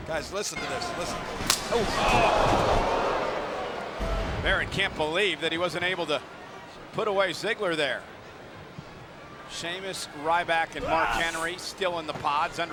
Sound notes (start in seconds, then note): 0.6 crowd oohing